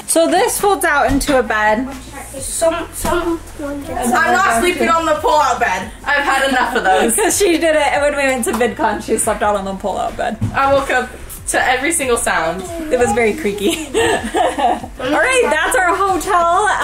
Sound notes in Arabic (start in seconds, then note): 2.4 الأطفال يغمغمون